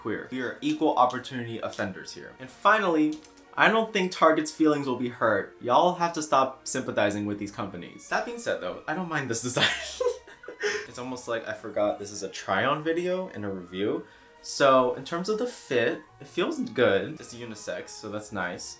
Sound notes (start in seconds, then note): 9.5 chuckles